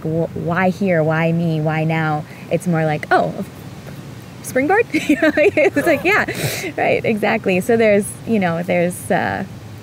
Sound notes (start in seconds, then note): 4.9 laughing